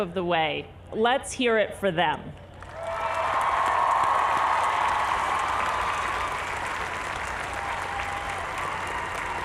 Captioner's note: applause